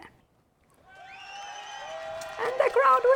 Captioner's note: crowd cheering